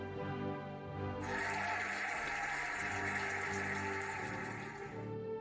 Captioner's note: cheering and applauding